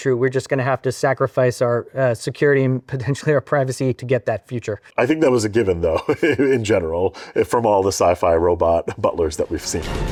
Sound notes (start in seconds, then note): 5.6 laughs